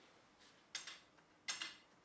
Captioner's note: quiet clicking